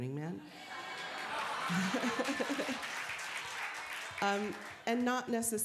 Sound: applause

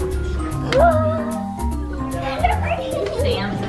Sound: gasping

